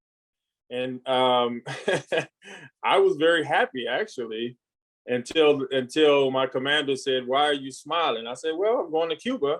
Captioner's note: laughs